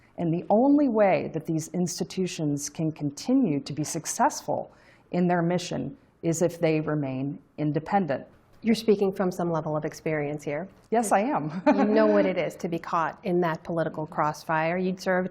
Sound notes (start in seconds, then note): 11.5 laughter